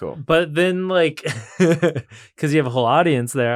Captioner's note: laughs